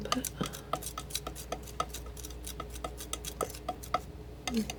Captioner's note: scratching